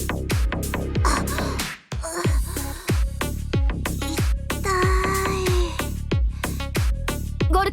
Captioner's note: cough, cough